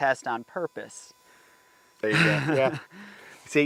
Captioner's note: laughter